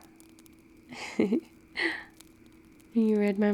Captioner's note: laughs